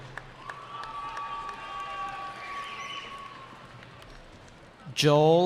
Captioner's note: cheering